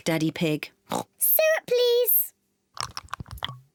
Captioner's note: oinks